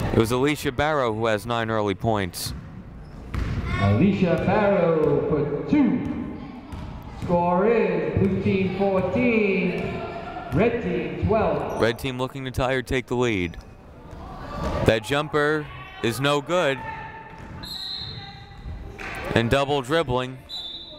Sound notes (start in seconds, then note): 17.6 whistle blowing